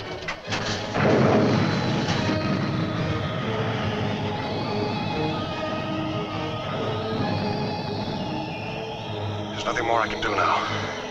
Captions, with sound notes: (explosion booming) (dramatic music) There's nothing more I can do now.